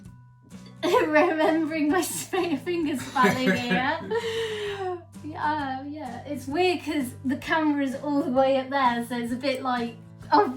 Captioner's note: laughs